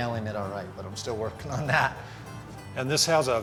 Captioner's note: laughs